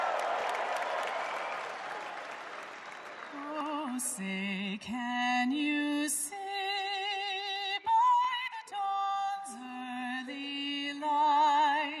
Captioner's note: cheering and Applaus